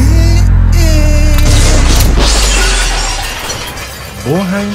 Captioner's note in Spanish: zonido choques de metales i vidrios i una tapa de llanta girando a parar